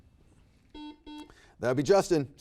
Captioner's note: buzzer beeps